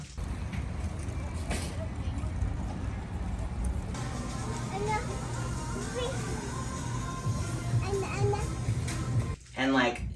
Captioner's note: Walmart noises